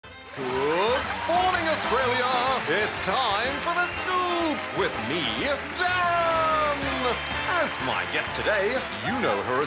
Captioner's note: canned applause